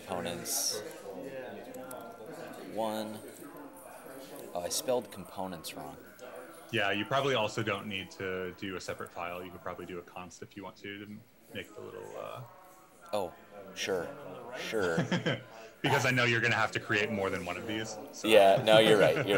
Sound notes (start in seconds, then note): 14.7 chuckling; 18.5 chuckling